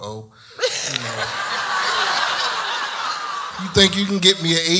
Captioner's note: audience laughs